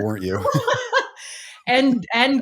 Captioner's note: laughing